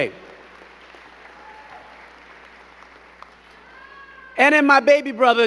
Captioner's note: crow clapping